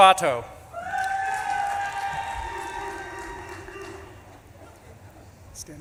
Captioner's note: audience claps and cheers